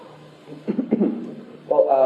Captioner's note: clears throat